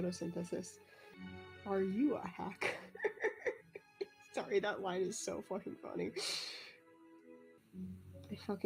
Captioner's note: laughs